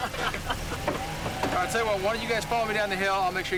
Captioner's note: all laugh